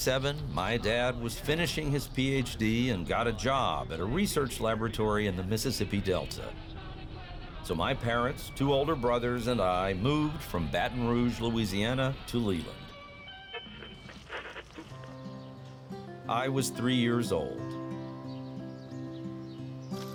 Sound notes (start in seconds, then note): 0.0 radio tuning; 14.2 radio tuning